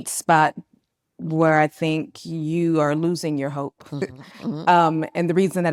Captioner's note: laughs